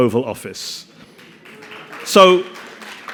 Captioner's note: audience applauding